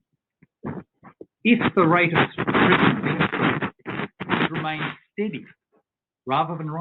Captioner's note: audio distorts